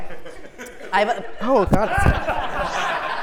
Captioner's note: laugh